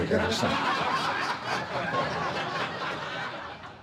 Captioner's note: audience laughs